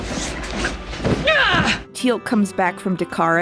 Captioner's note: Vala exclaims